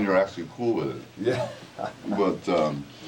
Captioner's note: laugh